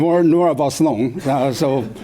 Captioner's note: chuckles